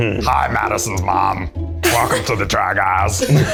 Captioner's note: in puppet voice